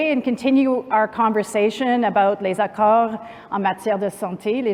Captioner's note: non-english speech